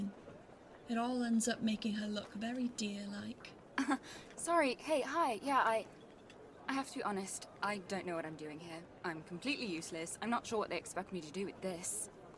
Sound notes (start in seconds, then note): 3.8 Cerci laughs